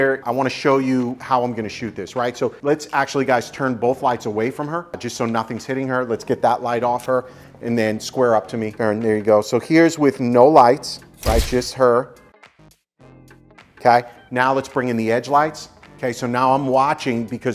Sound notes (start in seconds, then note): 11.2 camera clicking